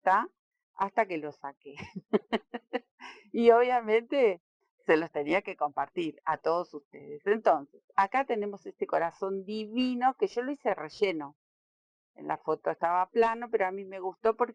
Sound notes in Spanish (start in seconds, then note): 1.8 risas